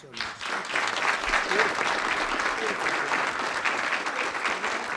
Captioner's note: applause